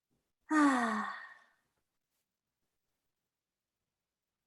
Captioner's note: Suki sighs